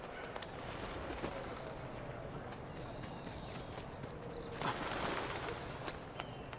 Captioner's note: none